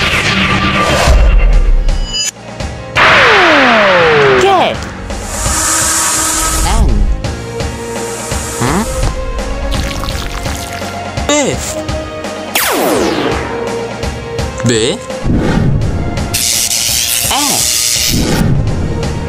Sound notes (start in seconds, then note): 3.0 shooting laser; 12.6 laser crashes